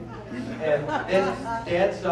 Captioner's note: laughter